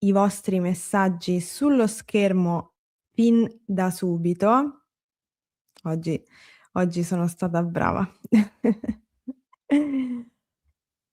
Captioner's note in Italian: schiarire la voce